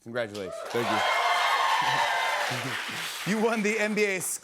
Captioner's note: cheers and applause